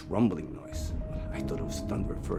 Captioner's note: ominous/emotional music; thunderous rumbling